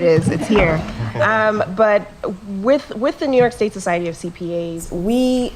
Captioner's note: laugh